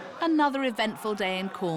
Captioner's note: none